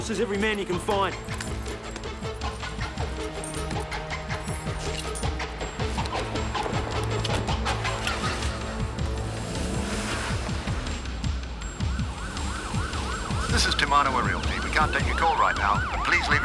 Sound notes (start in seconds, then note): 2.2 suspenseful music; 4.8 keys jingle; 7.6 car door thuds; 8.5 car engine revving; 10.6 siren wailing